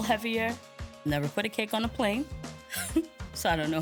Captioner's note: laughs